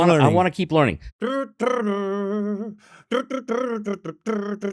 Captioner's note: humming